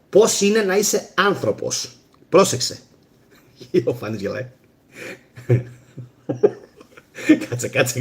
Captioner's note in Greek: γέλια